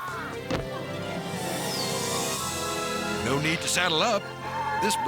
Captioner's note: romantic music; farmer screams